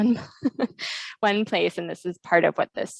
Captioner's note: laughs